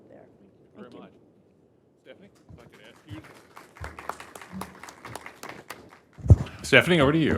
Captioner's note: applause